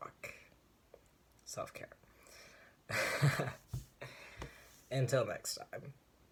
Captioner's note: weak laugh